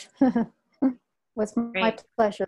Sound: chuckles

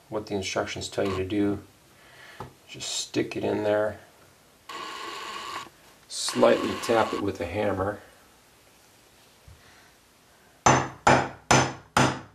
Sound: hammer sounds

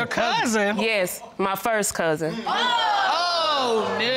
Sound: audience exclaiming

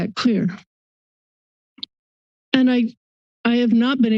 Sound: silence

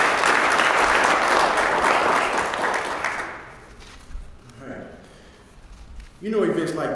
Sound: applause

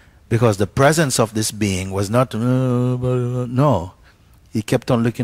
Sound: moaning

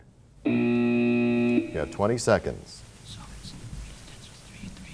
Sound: buzzer signaling the end of the round

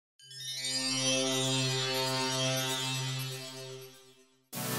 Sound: magical chimes; synthesizer music

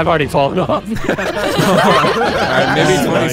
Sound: all laughing

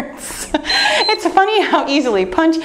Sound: timer beeps

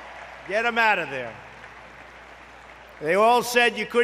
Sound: applause

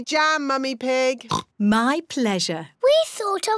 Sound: oinks

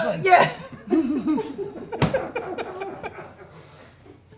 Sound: laughter

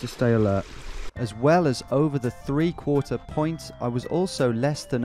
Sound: voiceover

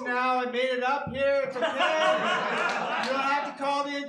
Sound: laughter

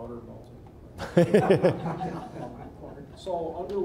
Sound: all laughing

